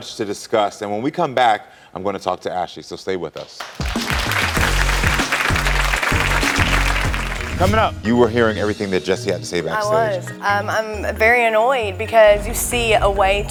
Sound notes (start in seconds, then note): 3.4 audience clapping